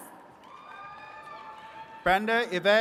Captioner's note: attendees cheering